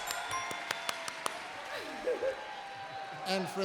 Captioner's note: applause